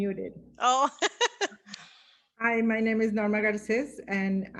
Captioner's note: woman cheerful laughing